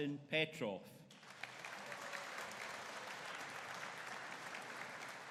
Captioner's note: audience applauding